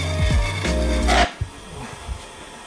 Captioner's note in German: wütendes Metallsägegeräusch